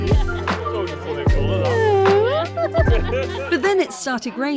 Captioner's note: laughing